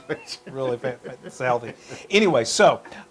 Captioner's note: laugh